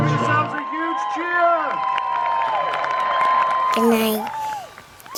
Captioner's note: audience cheers and applauds